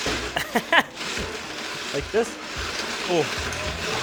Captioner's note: laughs